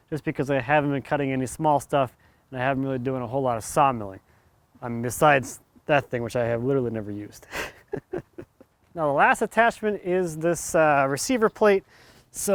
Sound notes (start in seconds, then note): 7.4 laughs